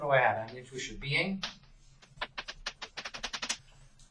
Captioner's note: writing on chalkboard sounds